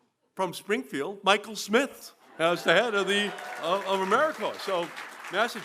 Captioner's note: applause